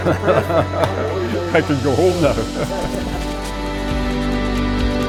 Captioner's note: laughing